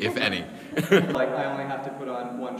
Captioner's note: laughs